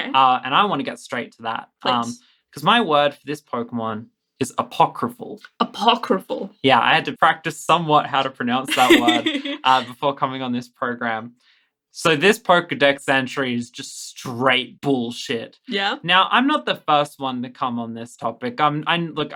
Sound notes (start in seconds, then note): 8.6 laughs